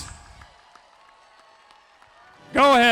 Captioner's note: audience cheering; audience applauding